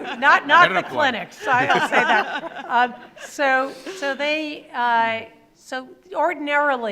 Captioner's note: panelists laughing